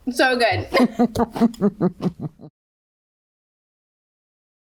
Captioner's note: both laugh